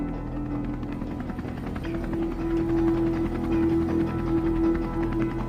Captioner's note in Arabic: شفرات المروحية تدور